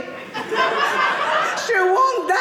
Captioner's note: audience laughing